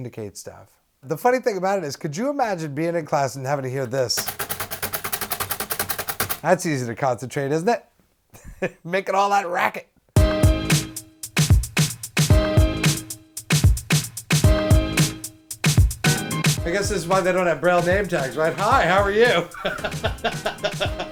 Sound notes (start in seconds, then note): 4.1 rapid clicking; 9.5 bumper music